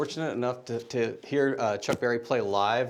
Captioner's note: none